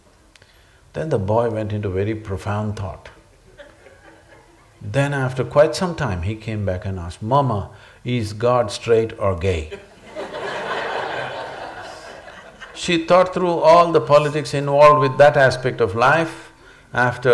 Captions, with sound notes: Then the boy went into very profound thought. Then after quite some time he came back and asked "Momma, is god straight or gay" (Laughter)? She thought through all the politics involved with that aspect of life.